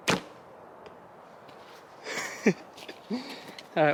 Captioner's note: bow thumps; chuckles